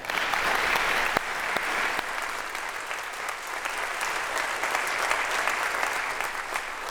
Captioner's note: applause